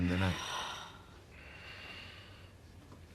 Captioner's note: SlGHlNG